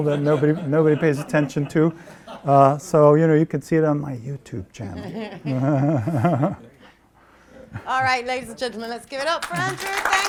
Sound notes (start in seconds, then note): 4.9 laughing